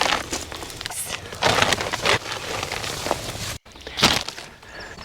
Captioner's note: empty polymer bag folds tightly